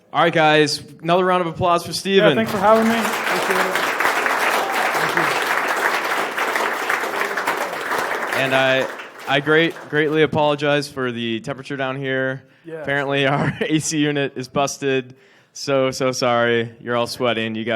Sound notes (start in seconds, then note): 3.7 applause